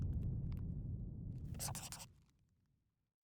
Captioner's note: scribbling